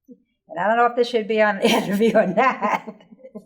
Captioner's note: laughing